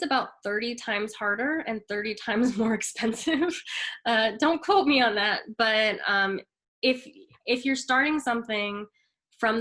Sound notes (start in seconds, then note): 2.4 chuckles